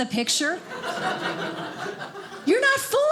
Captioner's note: audience laughing